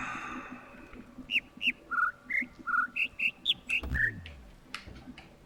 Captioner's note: overlapping birds chirping, ˥ ˥ ˩ ˧ ˩